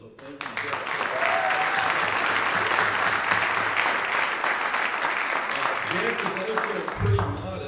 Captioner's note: applause